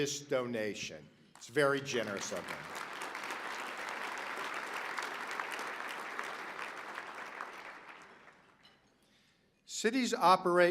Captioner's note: applause